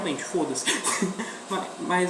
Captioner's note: laughs